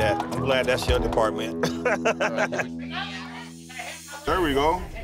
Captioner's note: laughs